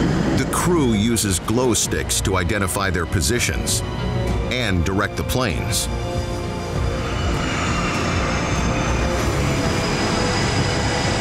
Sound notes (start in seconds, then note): 5.6 intense music; 5.8 plane whizzing